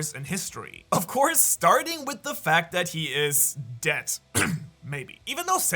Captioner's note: coughs